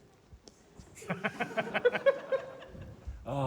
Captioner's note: laughter